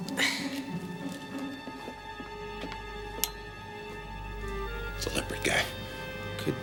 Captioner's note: exhales sharply